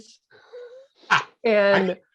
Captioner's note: both laughing